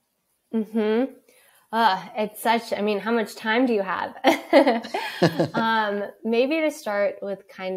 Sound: both laughs

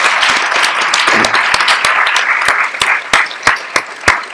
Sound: applause

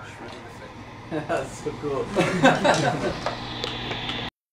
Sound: laughing

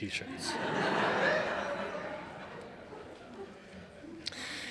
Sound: audience laughing

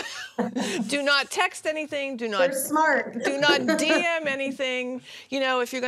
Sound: laughter

